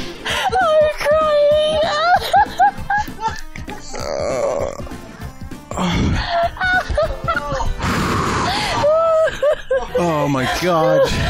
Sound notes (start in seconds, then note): 5.7 more laughing; 7.7 exhales